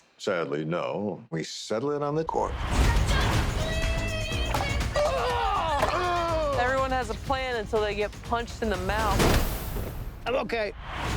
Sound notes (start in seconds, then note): 4.9 both grunt